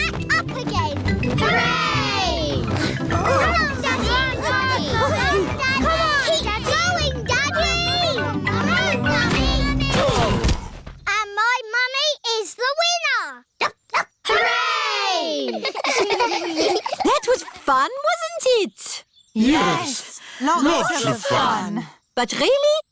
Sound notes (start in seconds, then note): 10.0 groaning; 14.2 barks; 15.4 giggling